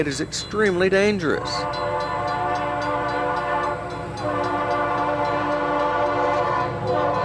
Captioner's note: crossing bells dinging; train hoots